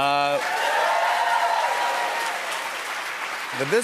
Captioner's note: cheers and applause